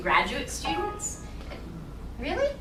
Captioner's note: computer alarm sounds